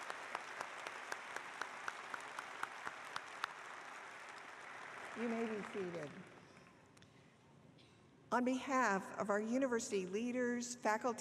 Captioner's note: applause